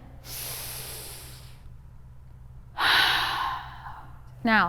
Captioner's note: deep breathing